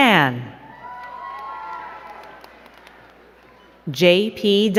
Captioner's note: crowd cheering and clapping